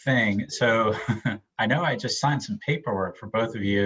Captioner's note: laughs